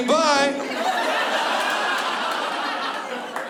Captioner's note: laughter